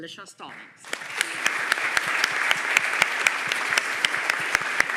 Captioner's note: audience applauding